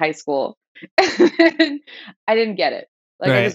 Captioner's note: laughter